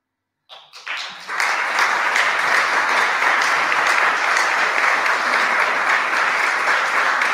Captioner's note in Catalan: aplaudiments